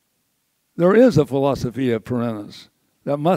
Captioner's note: says word in foreign language